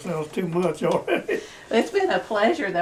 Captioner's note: laughs